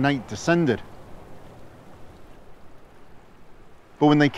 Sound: water whirling

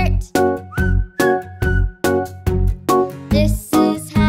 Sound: whistling

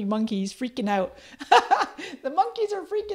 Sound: laughs

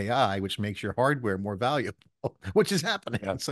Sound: chuckles

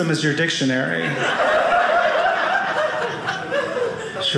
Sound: audience laughing

